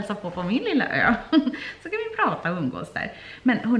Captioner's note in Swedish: skratt